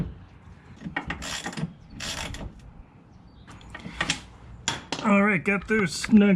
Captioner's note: torque wrench clicking